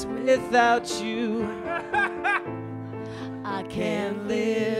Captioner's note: man laughs